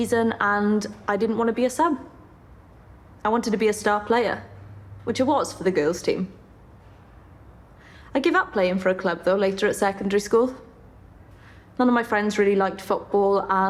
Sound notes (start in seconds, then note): none